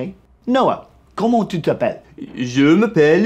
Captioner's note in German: Französisch